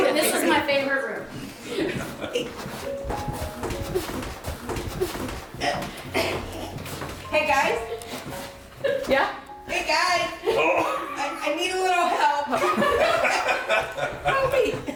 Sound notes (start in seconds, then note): 2.2 shoes scraping; 13.1 group laughing